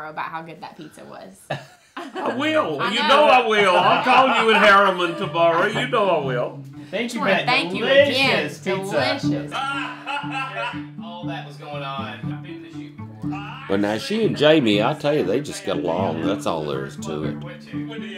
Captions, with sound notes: about how good that pizza was. (laughing) - I will, you know I will. I'll call you in Harriman tomorrow, you know I will. - Thank you for that- - Sure, thank you again- - Delicious pizza. - Delicious. (laughing) - All that was goin' on. - Well, now she and Jamie, I tell ya, they just get along. That's all there is to it.